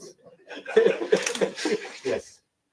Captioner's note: laughter